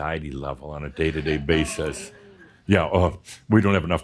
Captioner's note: a few chuckles and someone says “Oh!”